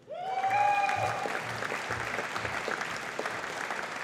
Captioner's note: audience applauding